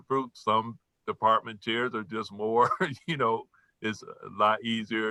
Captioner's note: laughs